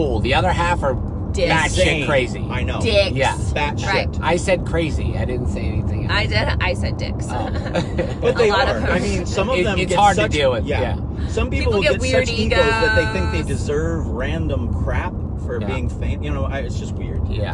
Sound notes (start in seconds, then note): 7.4 laughing